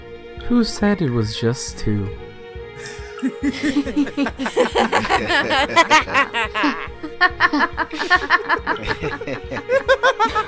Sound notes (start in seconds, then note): 2.8 A bunch of Darks start laughing evilly; 7.1 the laughing continues